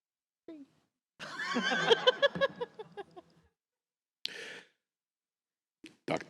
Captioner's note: laughter